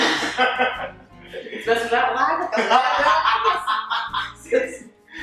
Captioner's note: laughs